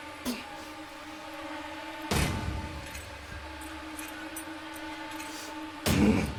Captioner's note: tense menacing music; Phillip grunts